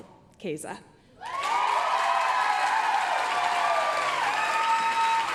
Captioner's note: applause, cheering